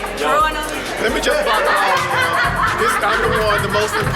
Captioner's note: group laughing and chatting